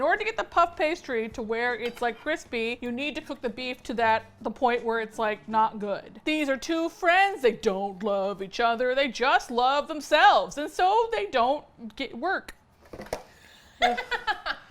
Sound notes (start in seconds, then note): 6.1 singsong; 13.7 laughs